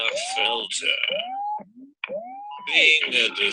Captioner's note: electronic noises